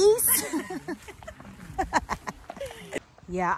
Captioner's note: both laughing